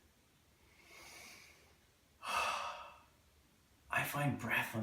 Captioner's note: deep breath